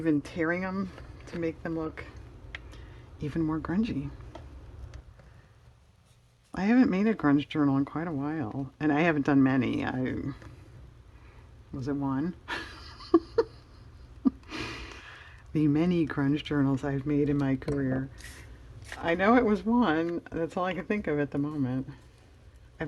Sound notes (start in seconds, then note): 12.5 laughs